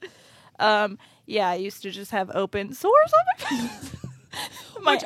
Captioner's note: laughs